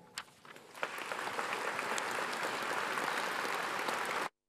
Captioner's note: audience applauds